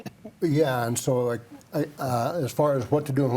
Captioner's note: chuckles